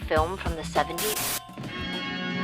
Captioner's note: static hissing; tense foreboding music